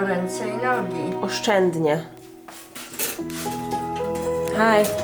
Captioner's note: grandma speaking in Polish; speaking in Polish